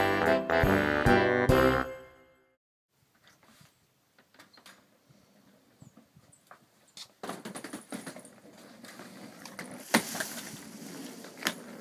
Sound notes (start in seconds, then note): 7.2 rolling luggage